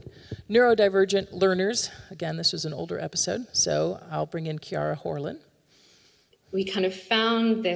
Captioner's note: audio recording plays